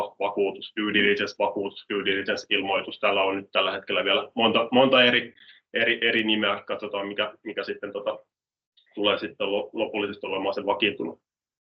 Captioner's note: in Finnish